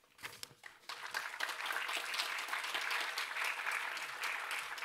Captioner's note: applause